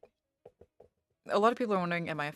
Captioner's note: speaking french